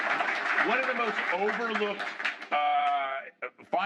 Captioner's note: applause